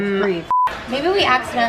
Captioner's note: beep